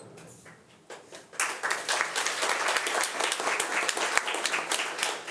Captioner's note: audience applauding